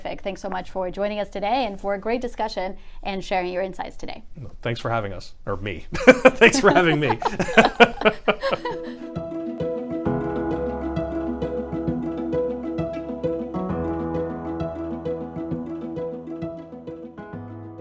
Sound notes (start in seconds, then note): 7.9 everyone laughing; 9.5 gentle music